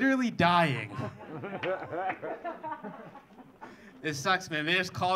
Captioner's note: audience laughing